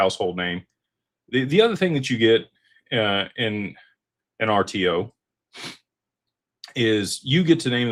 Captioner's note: snorts